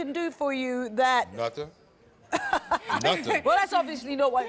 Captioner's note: Trisha laughs